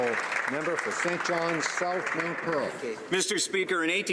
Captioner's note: some Applause